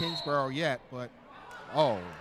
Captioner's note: referee whistling